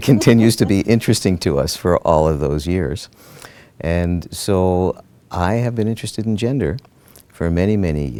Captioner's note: laughter